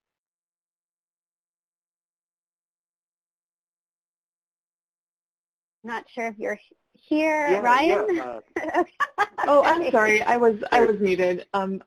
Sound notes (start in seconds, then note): 7.5 laughs